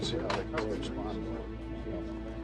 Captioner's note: navigators chattering